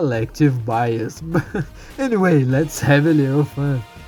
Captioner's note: heh